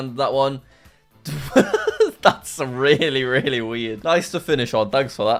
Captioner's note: laughs